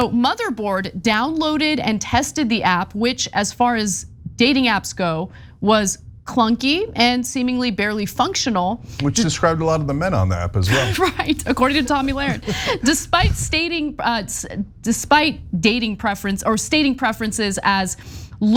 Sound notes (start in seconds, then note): 10.5 laugh